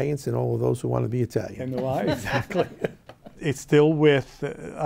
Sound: laughing

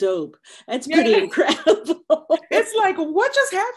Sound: laughing

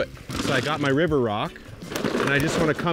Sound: rocks clattering

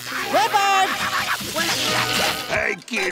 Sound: screaming

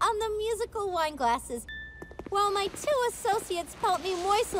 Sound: glass chimes

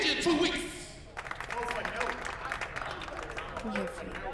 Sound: applause

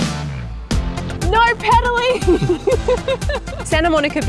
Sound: laughs

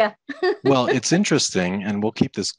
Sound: laughs

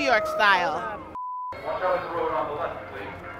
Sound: beep

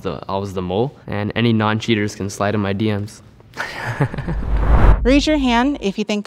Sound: laughs

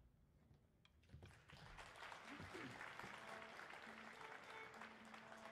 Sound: audience applauding; instruments gentle playing

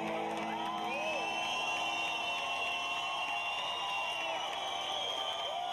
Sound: audience cheering and applauding

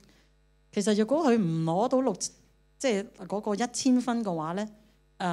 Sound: Cantonese

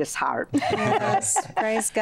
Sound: laughter

